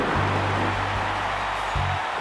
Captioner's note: crowd cheers